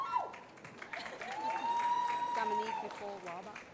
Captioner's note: cheering